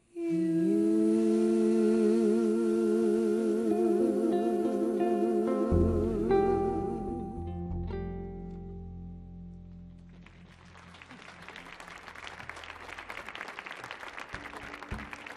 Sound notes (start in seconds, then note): 9.8 audience clapping